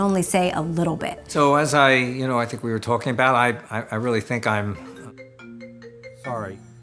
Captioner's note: phone Rings